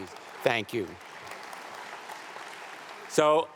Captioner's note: audience applauding